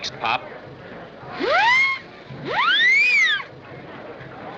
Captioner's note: whistle Blowing